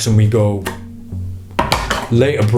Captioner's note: box falling